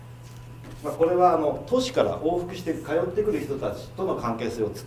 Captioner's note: speaking foreign language